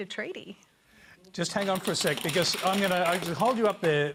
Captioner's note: applause